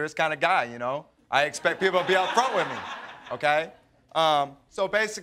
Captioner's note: audience laughs